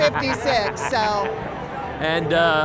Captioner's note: laughs